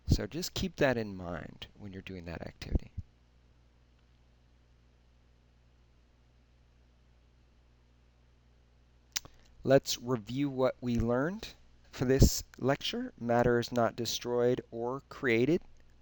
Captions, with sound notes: so just keep that in mind when you're doing that activity. (silence) Let's review what we learned for this lecture. Matter is not destroyed or created.